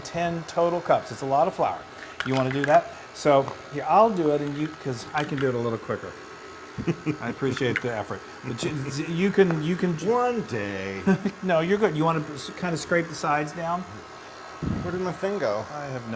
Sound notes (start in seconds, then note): 6.8 laugh